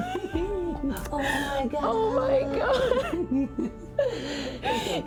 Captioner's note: crying